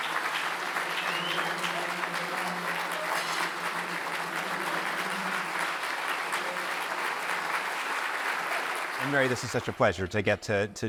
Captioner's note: applause